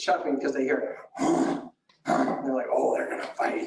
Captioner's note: chuff noises